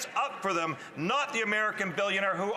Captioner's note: none